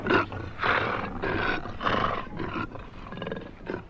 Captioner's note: growls